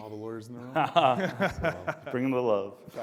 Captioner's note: all laughs